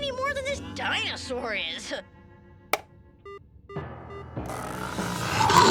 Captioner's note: button beeps; menacing music; dinosaur roars